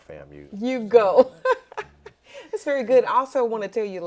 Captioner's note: laughs